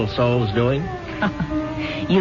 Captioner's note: laughs